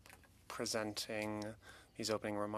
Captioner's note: speaking French